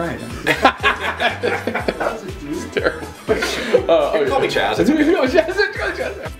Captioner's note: weird laughing; laughter